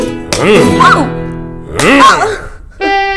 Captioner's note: Slapping sound